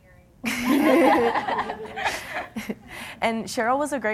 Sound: laughter

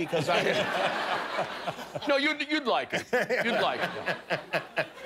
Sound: laughter

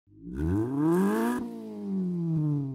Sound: engine revs

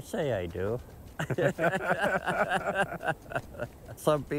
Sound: laughter

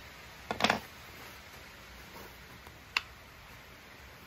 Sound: allen key clanging

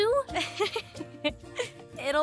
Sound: laughs

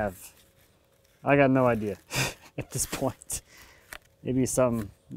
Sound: laughs

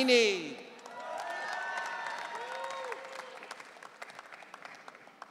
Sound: audience cheering

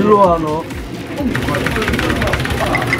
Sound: clacking away

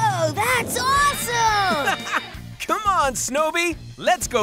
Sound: laughing

